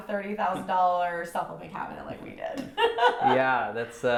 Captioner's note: laughs